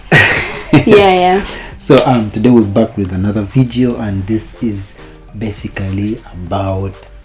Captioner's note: laughing; laughs